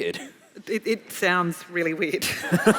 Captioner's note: laughing